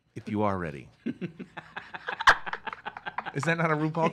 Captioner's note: laugh